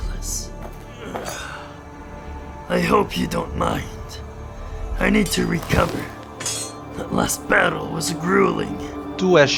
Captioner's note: exhale